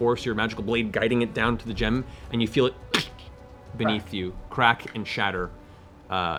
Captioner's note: crack